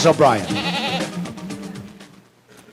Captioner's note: goat bleating